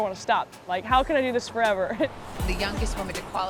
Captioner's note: Caroline laughs